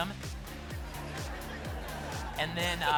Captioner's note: laughter